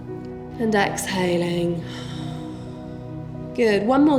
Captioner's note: heavy breathing